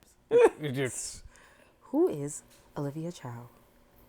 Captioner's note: laughing